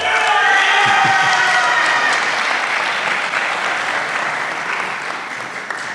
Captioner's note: applause